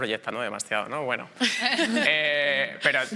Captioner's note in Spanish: Risas